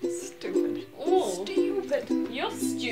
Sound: Bea groaning

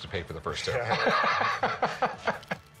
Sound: laughs

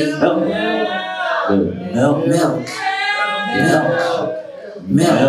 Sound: audience chanting Milk louder

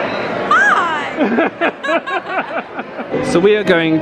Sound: both laugh

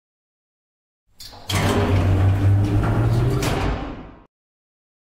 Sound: sound of lift

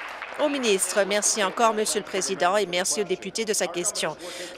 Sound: applause

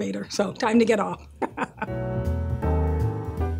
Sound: laughs

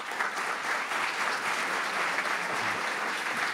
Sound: applause

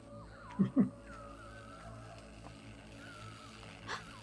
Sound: chuckles; electrical crackling; gasps

